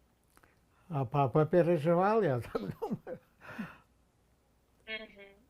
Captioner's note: laughing